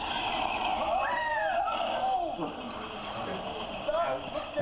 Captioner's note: shouting